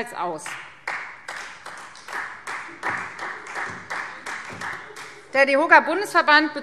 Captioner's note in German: Beifall Freie Demokraten